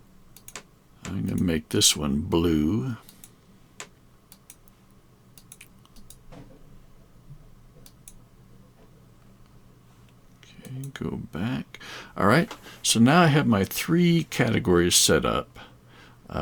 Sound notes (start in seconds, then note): 3.8 computer mouse clicking